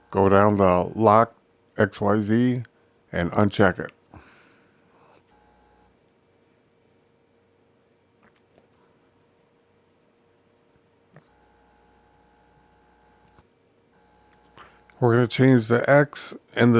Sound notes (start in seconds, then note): 4.9 silence